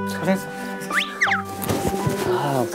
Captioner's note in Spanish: Pat-pat